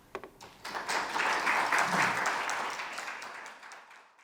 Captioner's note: audience applauding